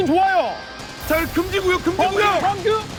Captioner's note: sand storming